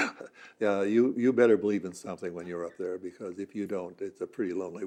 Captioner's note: laughs